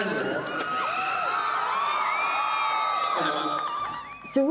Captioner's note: audience cheers